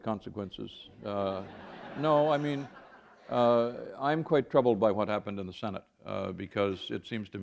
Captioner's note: laughter